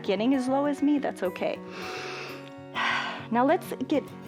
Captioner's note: inhales and exhales